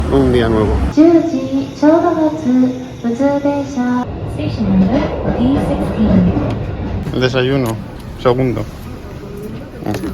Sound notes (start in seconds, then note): 1.0 public address system in Japanese; 4.0 train sound